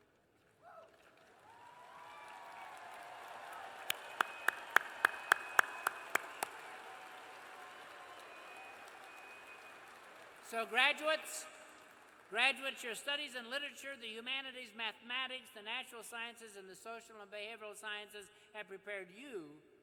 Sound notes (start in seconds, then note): 4.0 cheers and applause